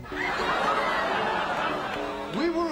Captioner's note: audience laughing